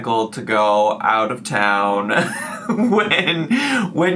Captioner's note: laughs